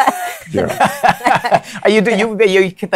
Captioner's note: laughs